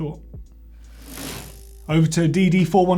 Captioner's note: bicycle gear whirs